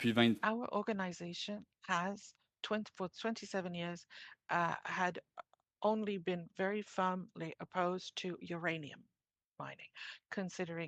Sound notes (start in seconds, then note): 3.3 speaking in French